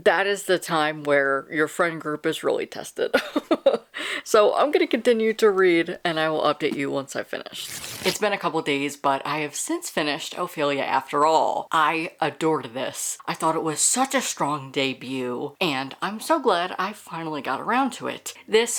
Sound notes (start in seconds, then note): 3.2 laughs; 7.5 page rip